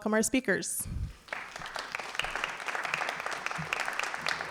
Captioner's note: applause